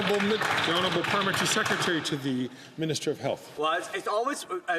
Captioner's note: some Applause